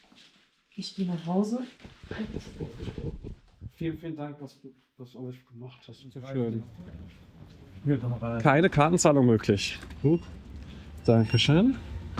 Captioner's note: speaking in foreign language